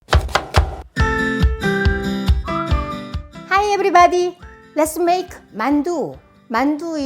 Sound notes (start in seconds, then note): 0.0 knife chopping; 1.2 bright music